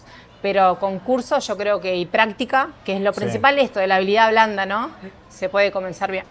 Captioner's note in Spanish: carraspeo